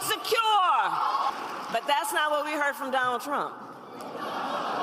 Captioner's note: applause